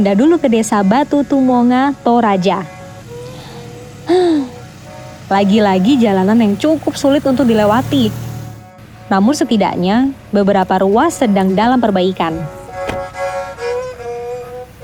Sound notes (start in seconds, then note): 4.0 sigh; 12.7 traditional music